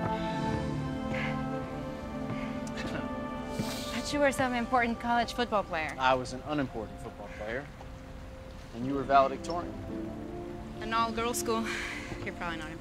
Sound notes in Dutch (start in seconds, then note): 2.4 Tommy lacht buiten adem